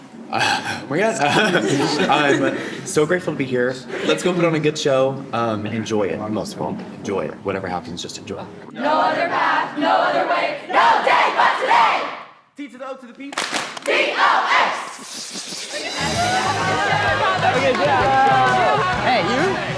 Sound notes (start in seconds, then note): 13.3 rhythmic hand clapping; 16.7 upbeat music